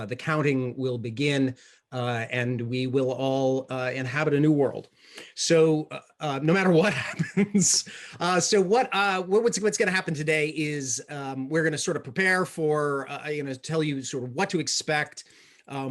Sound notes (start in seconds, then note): 6.8 laughs